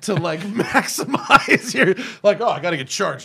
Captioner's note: laughter; laughter